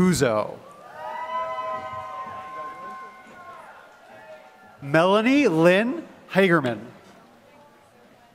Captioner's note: applause